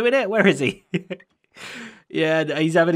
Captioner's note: chuckles